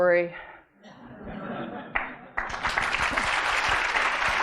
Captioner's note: audience laughing; audience applauding